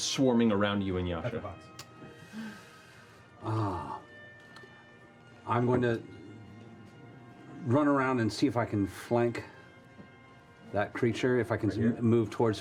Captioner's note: sighs